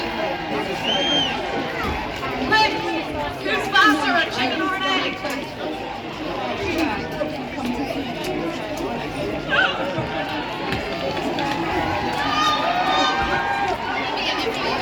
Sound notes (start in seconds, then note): 0.0 cheers/whistling; 6.4 growing cheers